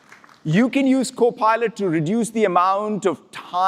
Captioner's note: applause